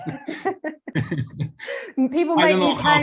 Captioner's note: laughter